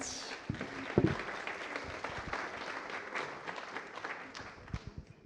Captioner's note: applause